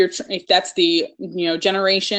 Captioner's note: murmurs